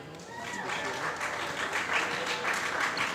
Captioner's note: applause